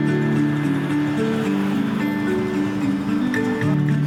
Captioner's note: car engine humming; gentle music